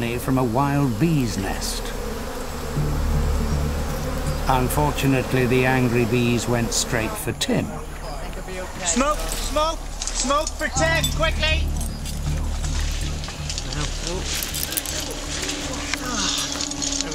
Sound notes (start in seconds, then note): 2.7 buzzing